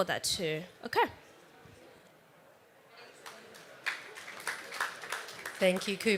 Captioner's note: applause